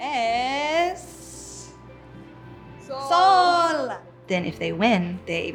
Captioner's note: speaks in Spanish language